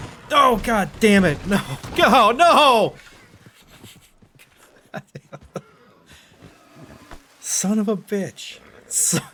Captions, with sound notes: OH GOD DAMMIT! NO! GOO-HOO! NO! (sad laughs) Son of a bitch.